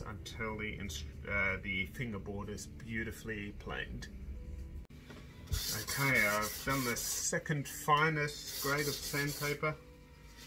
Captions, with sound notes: until the instrument, until the fingerboard is beautifully planed. (scraping) Okay I've done my second finest grade of sandpaper,